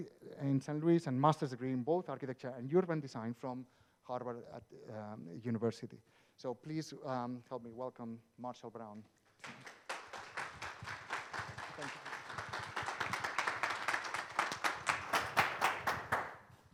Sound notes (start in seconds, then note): 9.4 audience applauding